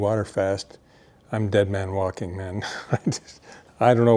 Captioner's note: chuckles